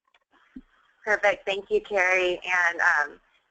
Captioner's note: voiceover